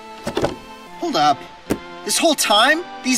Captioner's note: small thud sound; thud